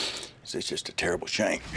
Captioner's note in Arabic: صخب